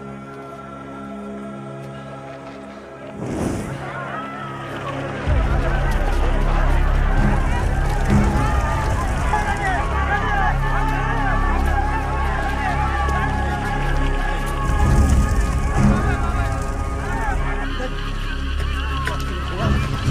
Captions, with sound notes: (whooshing) (people crying out) Hey, hey. That car's gonna blow.